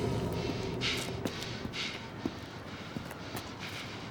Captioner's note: panting